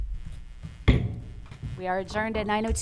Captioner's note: gavel bangs